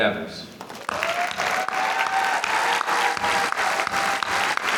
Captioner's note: applause